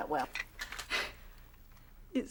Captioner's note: scoffs